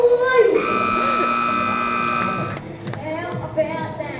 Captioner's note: hooter hoots